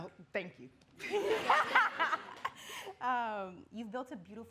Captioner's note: audience laughing